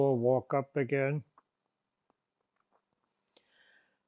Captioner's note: pauses 6 seconds